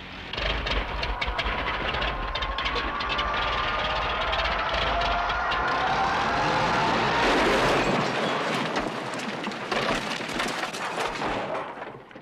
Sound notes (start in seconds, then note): 0.0 engine sputtering; 3.2 crash